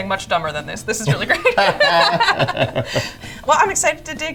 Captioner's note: laughing